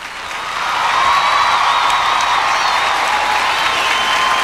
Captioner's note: applause and cheers